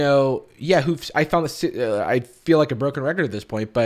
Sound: stuttering

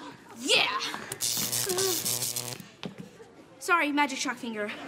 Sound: zaps

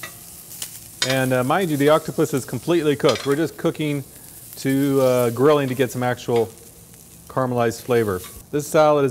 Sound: grilling

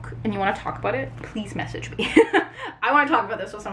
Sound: laughs

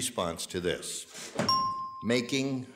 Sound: ding

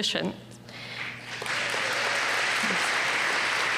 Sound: applause

